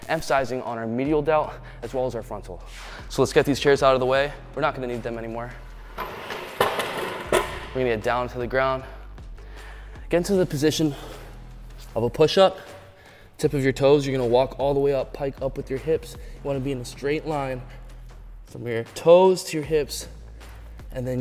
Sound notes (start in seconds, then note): 5.7 chairs sliding